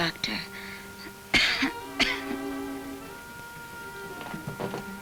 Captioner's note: Ellen coughs